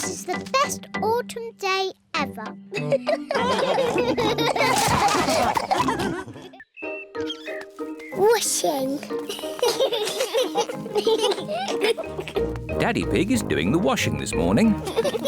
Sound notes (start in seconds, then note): 2.8 all giggle; 9.1 children giggling